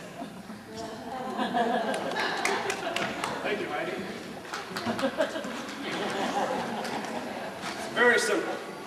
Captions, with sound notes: (laughter, some applause) Thank you, Heidi. (soft laughter) It's very simple.